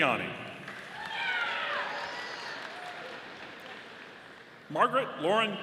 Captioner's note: audience applauding